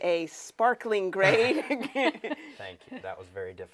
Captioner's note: laughs